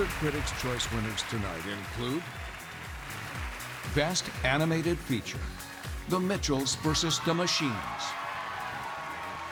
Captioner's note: cheers and applause